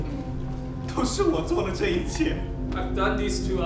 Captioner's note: speaking in a foreign language